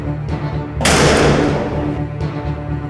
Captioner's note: door slams shut